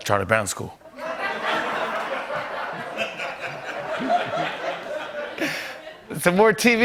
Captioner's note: laughter